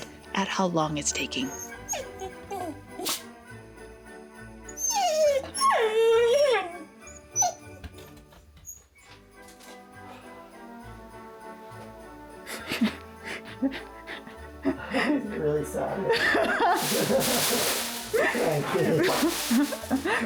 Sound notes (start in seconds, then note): 4.7 Pancake whimpering; 13.2 laughing